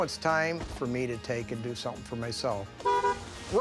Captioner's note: honking